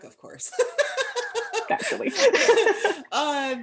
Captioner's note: laughter